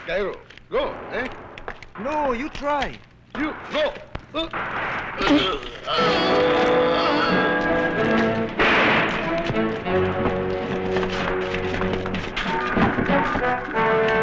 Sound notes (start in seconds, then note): 0.1 non-english; 5.1 groans; 5.9 intriguing music; 8.3 gunshot